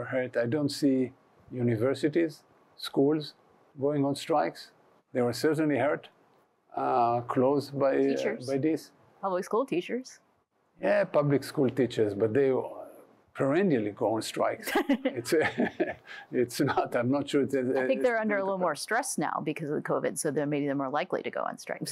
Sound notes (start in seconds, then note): 14.7 chuckling